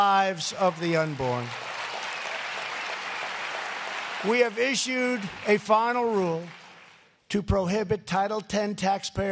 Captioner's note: applause